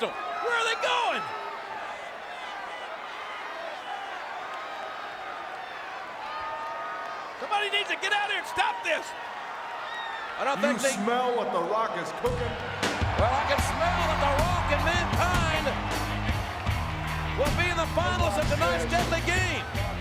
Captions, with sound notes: Where are they going? (crowd shouting) Somebody needs to get out here and stop this. I don't think they- You smell what the Rock is cooking? Well, I can smell what the Rock and Mankind will be in the finals of tonight's Deadly Game.